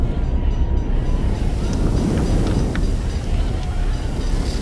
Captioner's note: fire Engine Bell Ringing, People Shouting